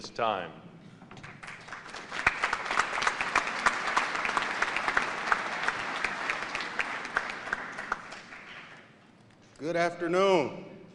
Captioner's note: applause